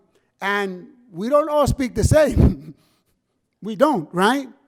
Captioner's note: laughs